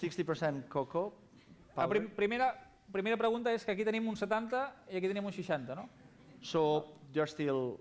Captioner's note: non-english speech